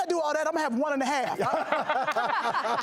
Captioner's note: laughing